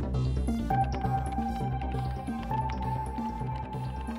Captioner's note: keyboard clacking